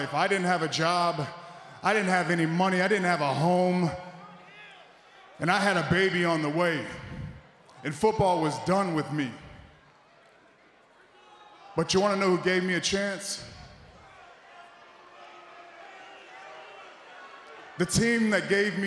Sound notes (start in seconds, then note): none